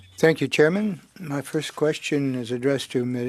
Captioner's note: speaking French